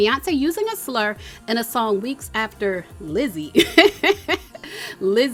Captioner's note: laughing